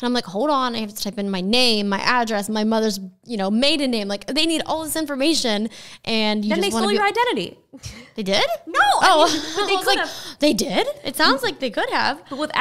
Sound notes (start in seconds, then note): 8.0 laughing